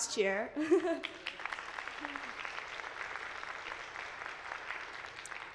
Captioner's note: attendees applauding